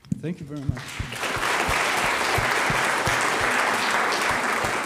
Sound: audience applauds

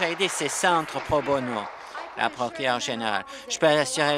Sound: applause

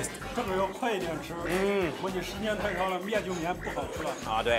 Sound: speaks in Chinese

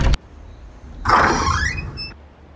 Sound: doors open

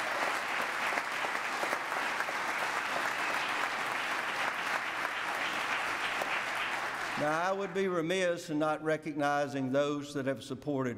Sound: applause

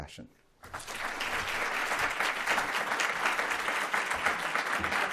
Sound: applause

